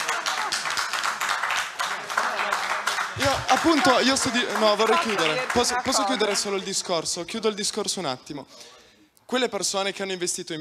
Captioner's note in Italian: Applauso